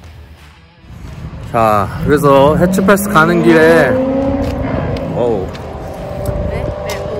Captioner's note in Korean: 엔진소리